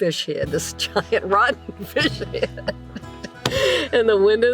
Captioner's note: laughs